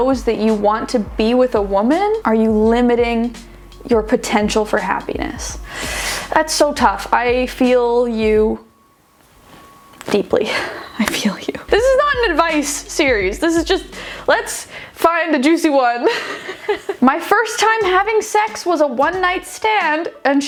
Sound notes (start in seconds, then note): 16.1 laughing